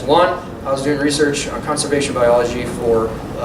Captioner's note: none